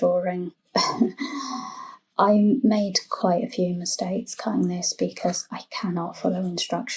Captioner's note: laugh